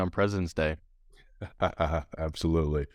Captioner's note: laughs